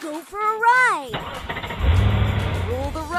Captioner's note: engine starting